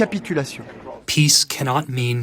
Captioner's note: through translator